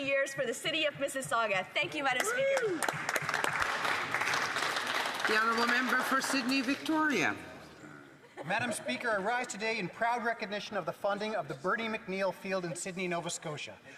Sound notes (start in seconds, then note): 7.0 some Applause